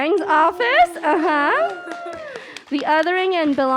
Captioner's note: cheering